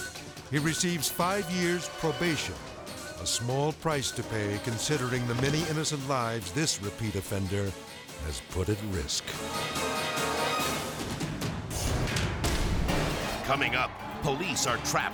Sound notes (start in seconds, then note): 11.7 graphics booming